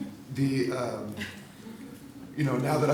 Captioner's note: laughter